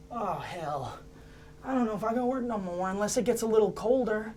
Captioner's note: none